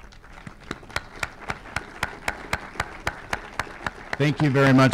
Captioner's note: group applause